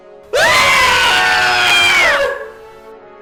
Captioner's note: scream